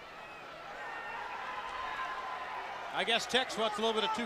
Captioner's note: crowd cheering